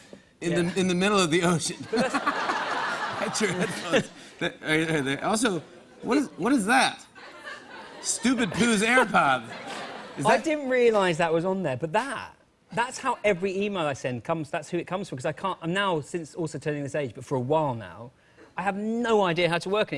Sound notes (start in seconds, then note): 1.8 laughter; 7.1 laughter